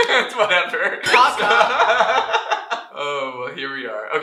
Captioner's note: laughter